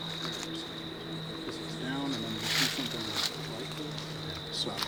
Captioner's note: indistinct conversation